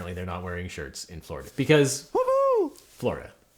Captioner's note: fan cheers